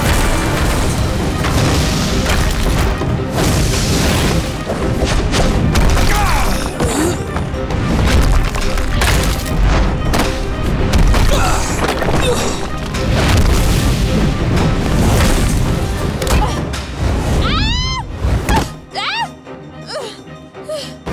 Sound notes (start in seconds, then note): 15.8 groaning, screaming; 19.4 groaning